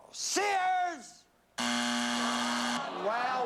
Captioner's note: buzzer